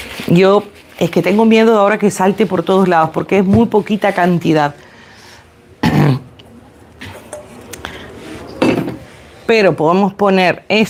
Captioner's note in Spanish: carraspeo